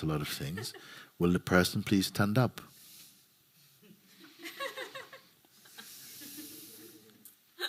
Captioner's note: laughter